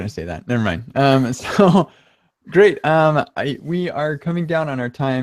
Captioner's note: laughing